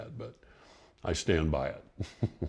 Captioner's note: laughs